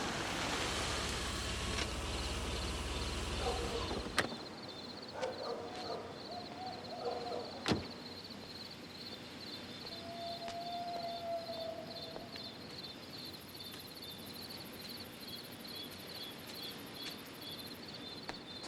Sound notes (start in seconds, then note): 6.4 dog howls; 13.0 crickets chirp